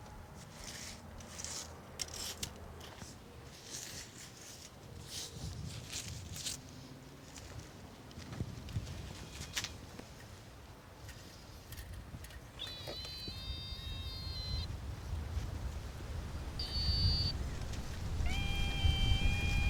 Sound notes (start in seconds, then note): 12.6 mechanical sounds